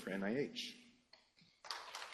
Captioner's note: applause